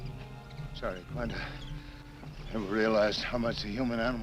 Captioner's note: gasps